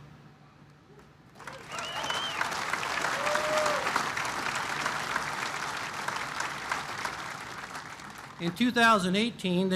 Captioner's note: applause